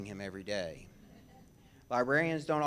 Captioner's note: audience laughs